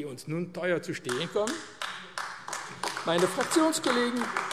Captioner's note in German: Beifall AfD